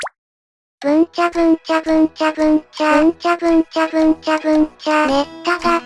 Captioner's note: humming